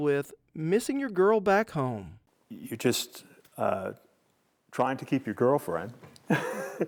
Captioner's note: laugh